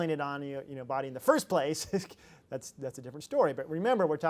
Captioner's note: laughs